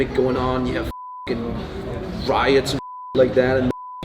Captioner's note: beep